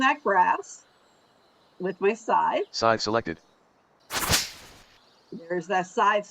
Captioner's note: thwack